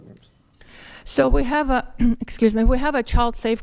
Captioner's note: clears throat